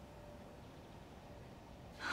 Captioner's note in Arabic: زفير